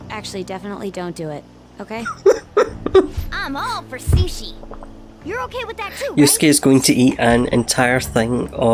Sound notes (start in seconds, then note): 2.0 laughs